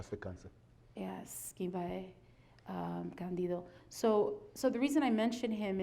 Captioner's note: speaking foreign language